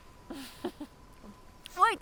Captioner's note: chuckling